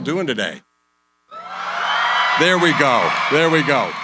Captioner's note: cheering